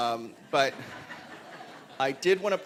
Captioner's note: laughter